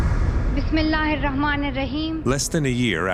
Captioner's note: non-English speech